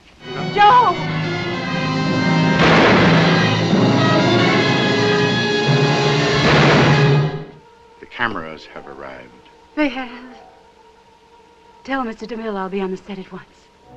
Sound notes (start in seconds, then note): 2.6 gunshot; 6.4 gunshot